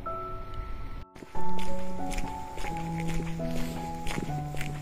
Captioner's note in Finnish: askelten rahinaa